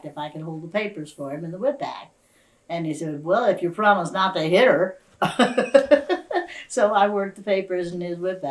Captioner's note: laughs